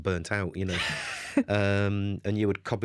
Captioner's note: laughter